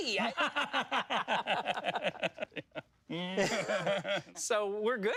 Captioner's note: laugh in unison